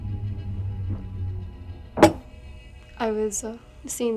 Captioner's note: tense music; glass thuds